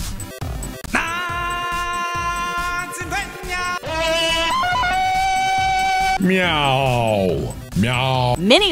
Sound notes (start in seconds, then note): 3.7 Tarzan Yell